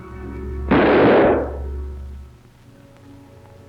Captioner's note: gun fires